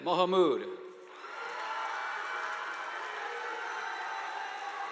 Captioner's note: audience applauding